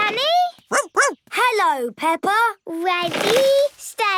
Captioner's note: snorts; barks